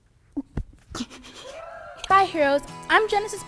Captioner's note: laughs